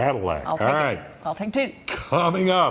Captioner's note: laughter